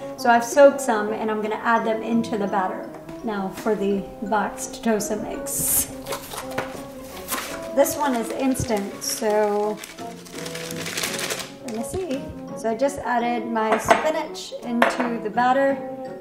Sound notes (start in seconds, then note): 7.0 ripping package; 9.9 shaking package